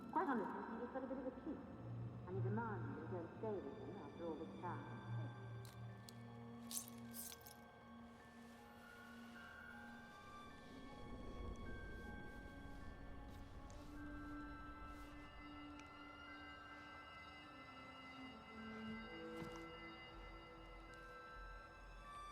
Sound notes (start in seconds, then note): 0.2 eerie music; 6.6 jewellery clinks